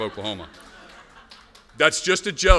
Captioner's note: laughter